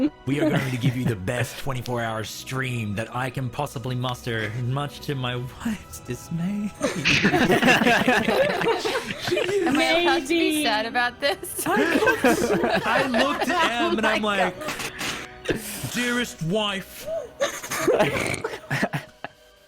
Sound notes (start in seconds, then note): 6.8 all sympathetic laughter; 15.1 stately voice; 17.3 all snicker